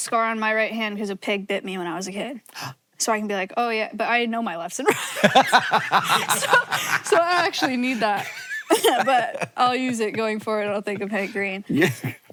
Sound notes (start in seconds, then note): 3.1 Hank gasps; 4.8 both laughing